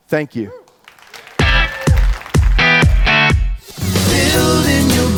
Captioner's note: audience claps